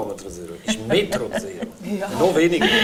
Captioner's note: laughs